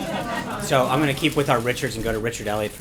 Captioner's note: laughter